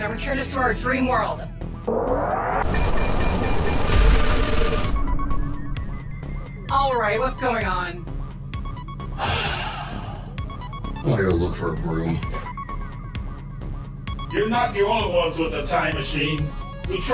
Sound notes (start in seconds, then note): 2.7 Radian Council whirring; 9.1 sighs deeply